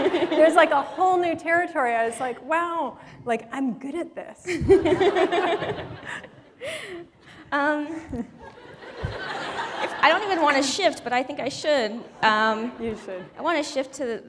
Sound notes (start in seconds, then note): 6.3 laughter